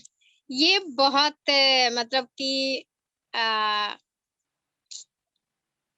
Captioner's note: speaks foreign language